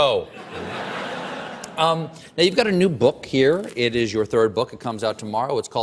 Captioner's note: laughter